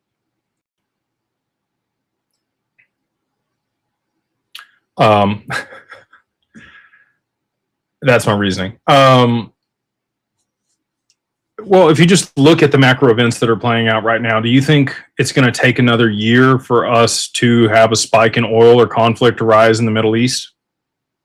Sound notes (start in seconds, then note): 5.4 laughter